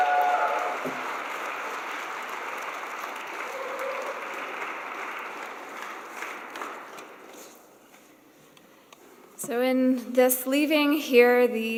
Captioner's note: cheers and applause